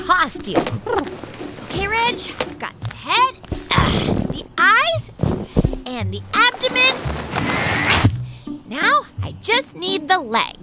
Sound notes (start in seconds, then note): 0.6 soundbite of fabric rustling; 2.7 soundbite of costume thump; 6.2 soundbite of rustling